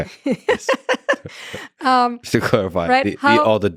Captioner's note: laughs